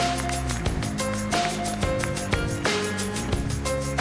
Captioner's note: applause